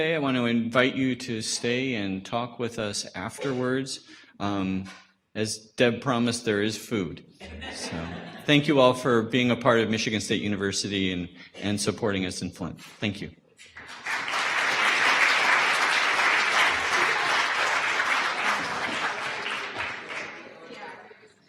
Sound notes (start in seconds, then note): 13.7 audience applause